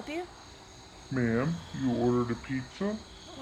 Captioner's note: distorted voice